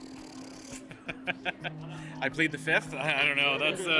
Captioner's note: laughter